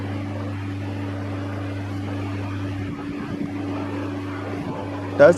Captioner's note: dmh60 wave desert cooler running